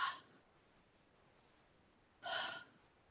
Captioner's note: exhales